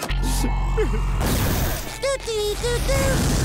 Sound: crying; humming

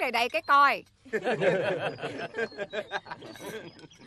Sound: laughing

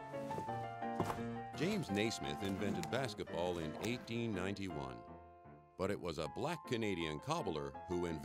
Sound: voiceover

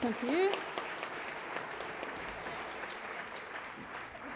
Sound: crowd applauds

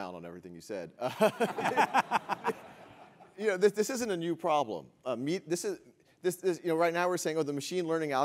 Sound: laugh

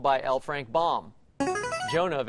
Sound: buzzer plays

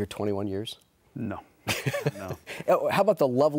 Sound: laughs

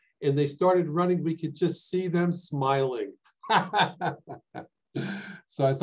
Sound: laughs

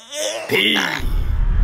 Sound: i asfixiándose

